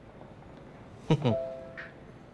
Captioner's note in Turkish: Gülüyor